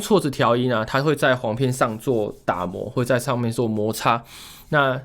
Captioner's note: rubbing